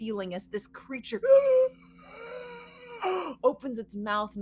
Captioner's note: screeches